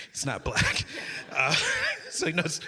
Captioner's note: audience laughing